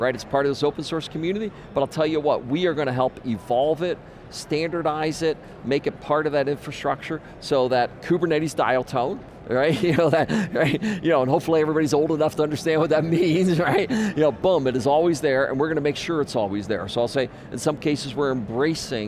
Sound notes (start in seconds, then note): 9.7 laughs